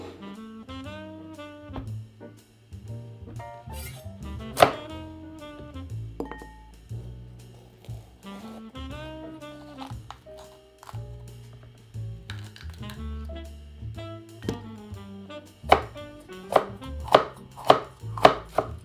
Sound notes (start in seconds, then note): 4.5 knife choppig